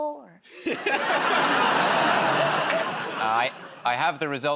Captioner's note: laughter